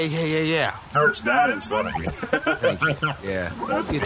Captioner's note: chuckles